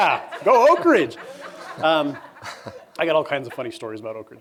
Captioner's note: laughter